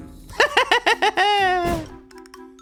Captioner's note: laughs